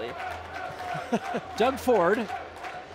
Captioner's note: cheering in crowd; chuckling